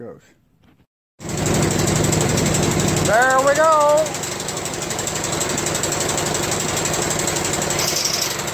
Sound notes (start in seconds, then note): 1.2 engine running noise